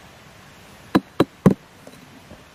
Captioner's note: tap tap tap